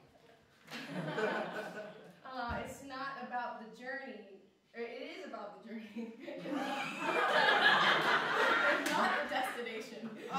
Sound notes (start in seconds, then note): 5.9 laughter